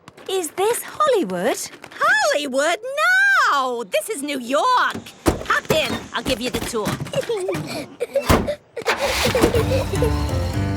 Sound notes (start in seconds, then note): 7.0 Peppa and George laughing